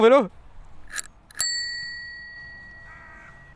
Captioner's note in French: ddiinnnngg